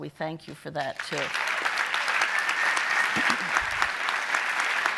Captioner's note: audience applauding